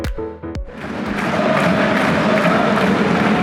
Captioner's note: clapping